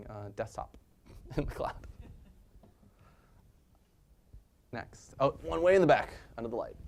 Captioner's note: laugh